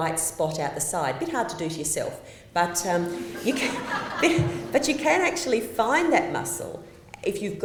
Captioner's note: laughter